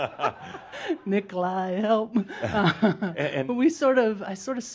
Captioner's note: they chuckle